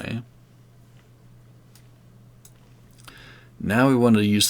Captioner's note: mouse clicking